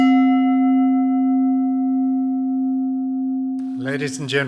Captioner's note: bell ringing